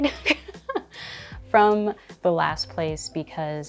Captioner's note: chuckling